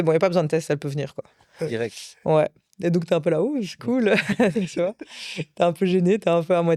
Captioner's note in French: rires